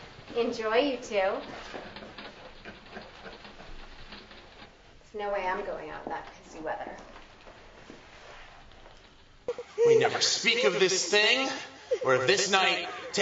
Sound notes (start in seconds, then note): 2.6 laughing